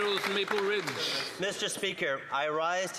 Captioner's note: some Applause